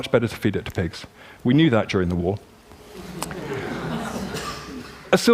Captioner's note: laughter